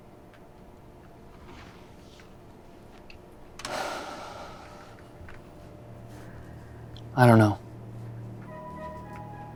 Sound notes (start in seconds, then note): 3.7 Colin sighs